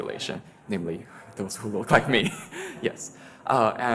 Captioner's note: laughs